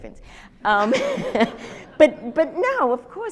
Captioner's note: audience laughs